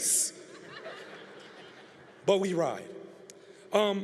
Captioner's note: congregation laughing